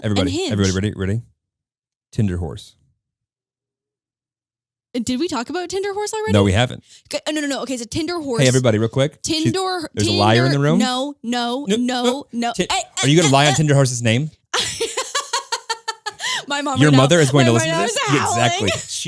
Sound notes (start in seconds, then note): 14.5 laughing